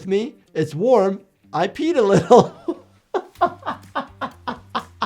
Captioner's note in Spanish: risas